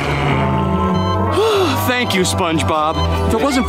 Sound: sighing

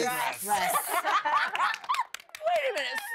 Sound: laughter, clapping

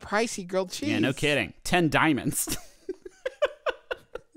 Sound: laughs

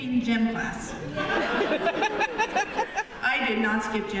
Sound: laughter

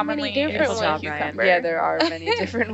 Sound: group chatters

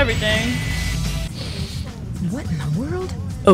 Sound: inhales through nose

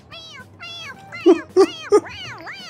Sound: laughs

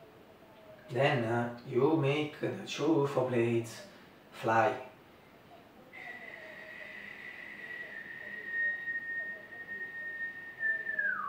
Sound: whistle

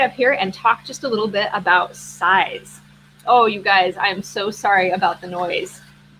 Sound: loud construction noise

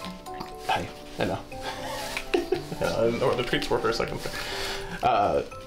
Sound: laughs

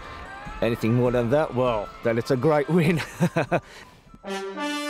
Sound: laughs

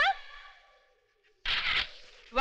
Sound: camera Clicks

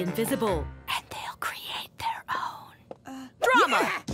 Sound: whispering

